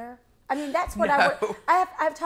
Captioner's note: laughs